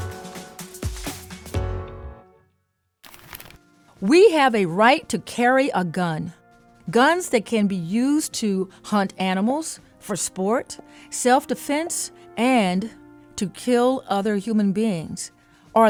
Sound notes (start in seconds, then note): 3.0 image rustling